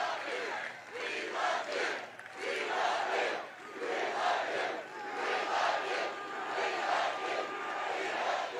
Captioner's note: cheering